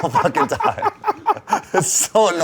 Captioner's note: laughing